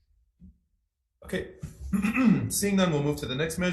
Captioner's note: clears throat